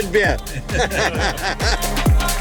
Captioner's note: laughs; upbeat music